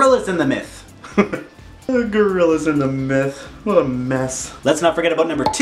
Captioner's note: laughing